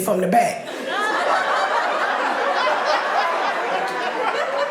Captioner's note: audience laughing